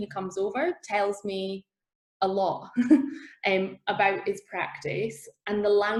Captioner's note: laughs